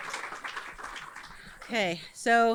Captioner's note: audience applauds